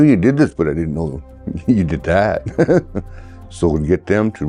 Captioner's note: chuckling